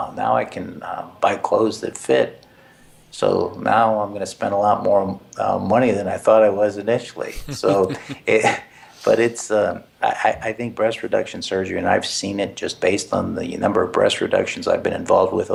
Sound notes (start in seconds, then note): 7.2 laugh